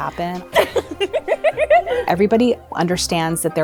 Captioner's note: giggling